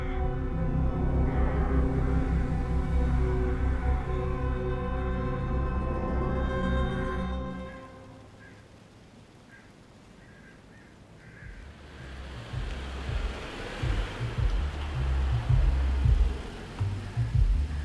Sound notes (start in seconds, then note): 0.2 crows cawing; 10.1 crows cawing; 11.5 vehicle humming; 12.5 upbeat music on car radio